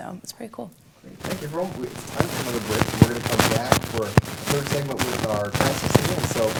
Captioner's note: audio Static